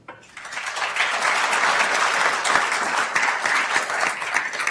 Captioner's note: attendees applauding